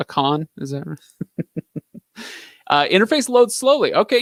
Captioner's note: giggling